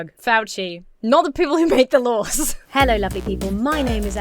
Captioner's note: chuckles